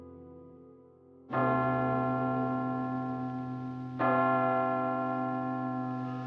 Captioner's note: bell ringing slowly